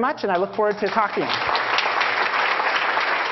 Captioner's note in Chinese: Applause; 掌聲